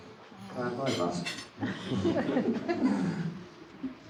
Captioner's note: audience laughing